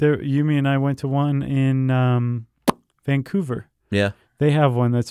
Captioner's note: smack lips